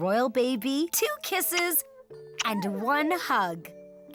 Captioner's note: kissing